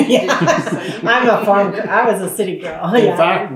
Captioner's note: laughs